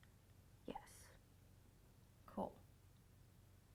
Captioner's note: in a low voice but decided